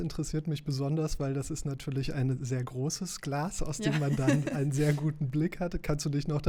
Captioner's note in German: gelächter